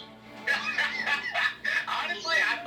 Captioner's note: laughing